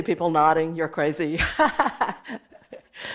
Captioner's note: laugh